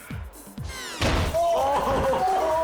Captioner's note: descending music; groaning; friends laughing